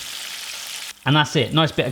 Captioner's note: sizzling